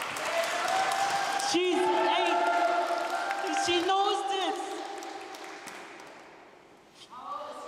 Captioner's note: applause